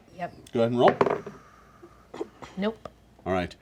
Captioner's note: dice clatter